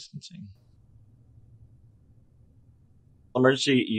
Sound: silence

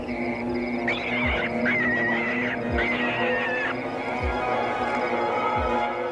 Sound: animal screeching; tense music

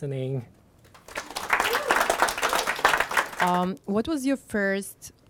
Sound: applause

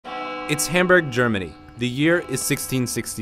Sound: voiceover

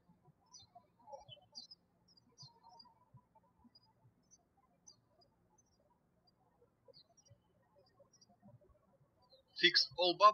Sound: birds chirping

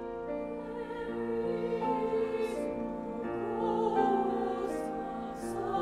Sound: high voices

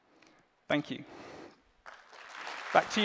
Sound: applause

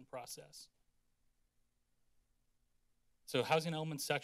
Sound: silence

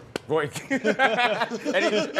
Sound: laughter

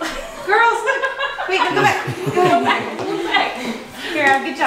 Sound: family chatter

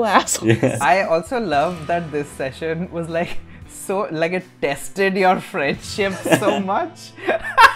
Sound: laughter

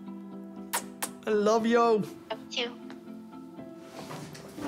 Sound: air kisses

